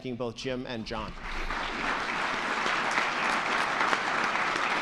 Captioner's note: all clapping